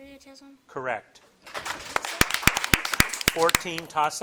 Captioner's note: audience applauding